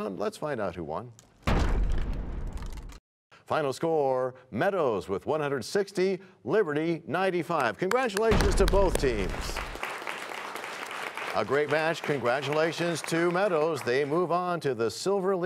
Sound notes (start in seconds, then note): 2.8 crashing sound; 11.1 applause